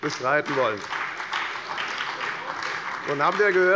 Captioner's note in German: Beifall bei der FDP und der SPD